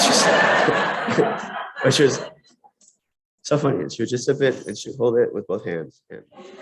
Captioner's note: laughter